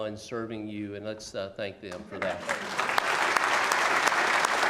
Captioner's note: applause